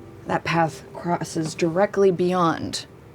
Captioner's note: none